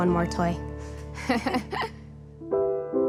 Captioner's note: laughing loudly; soft piano music